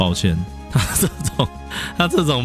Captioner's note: laughing